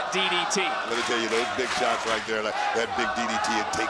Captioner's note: crowd chants "let's go, alba"